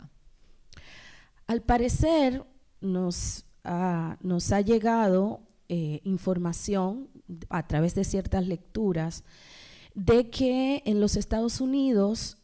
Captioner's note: speaking spanish